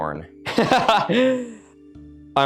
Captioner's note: laughs